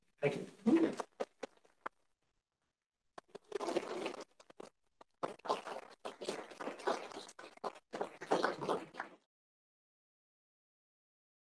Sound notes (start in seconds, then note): 5.4 audience clapping